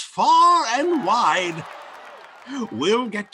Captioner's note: audience cheering